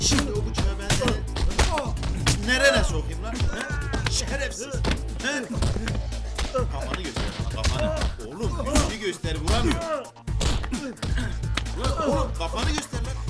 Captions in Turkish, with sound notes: Şimdi o bıçağı ben senin nerene sokayım lan? He şerefsiz, he? Kafanı göster bana kafanı. Oğlum, yüzünü göster vuramıyorum. [KAVGA DÖVÜŞ SESLERİ] Ulan kafanı göster lan.